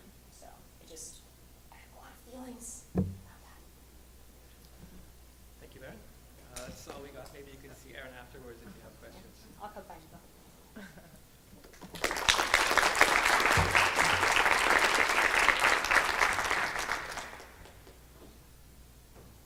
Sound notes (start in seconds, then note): 11.7 clapping